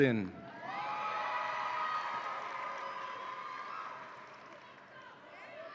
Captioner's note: audience applauds and cheers